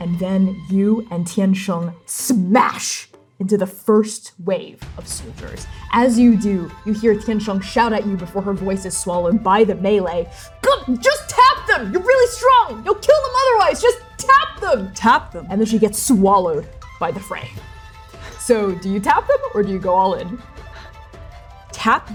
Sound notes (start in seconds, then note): 18.0 labored breathing; 20.9 scoffing